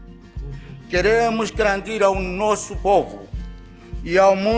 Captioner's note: speaking in non-english